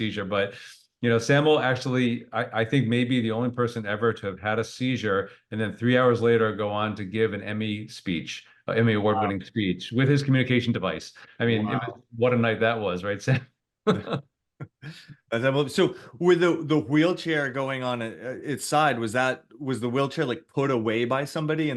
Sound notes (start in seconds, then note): 13.9 laughs